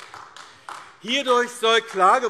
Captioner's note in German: Beifall AfD